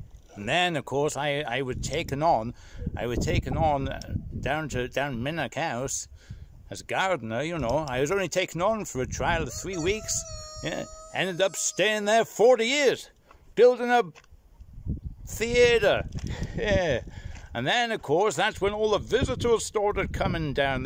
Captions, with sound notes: And then, o' course, I was taken on I was taken on down Minack House as gardener, you know. I was only taken on for a trial of three weeks [COCK CROW] Ended up staying there forty years. Building a ... the-aytre ... yeah An' then, o' course, that's when all the visitors started coming down.